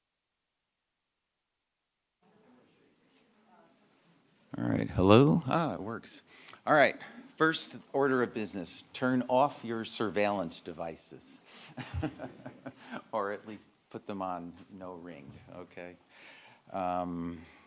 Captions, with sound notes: All right. Hello? Ah, it works. All right. First order of business. Turn off your surveillance devices (laughing) or at least put them on no ring, okay?